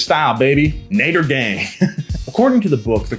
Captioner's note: laughs